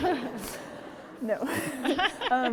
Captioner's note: audience laughing